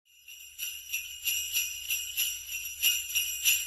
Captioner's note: bells ringing